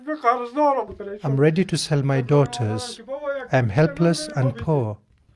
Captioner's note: cries